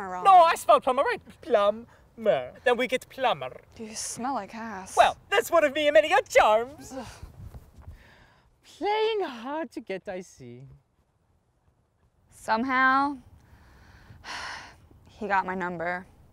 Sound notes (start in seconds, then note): none